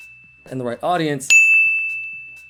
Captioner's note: bell dings